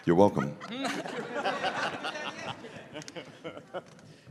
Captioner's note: laughter